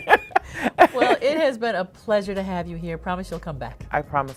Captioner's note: laughs